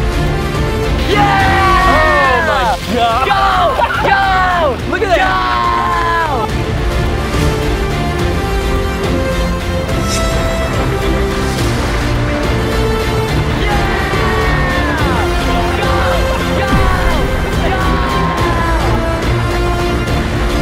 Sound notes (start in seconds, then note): 0.2 intense music; 2.3 laughs